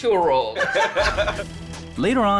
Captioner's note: laughter